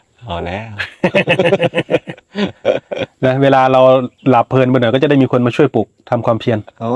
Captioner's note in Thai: เสียงหัวเราะ